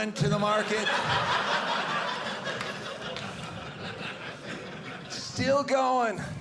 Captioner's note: audience laughing